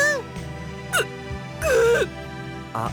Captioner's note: holding back sobs